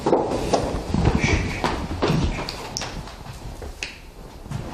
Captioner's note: shushing quietly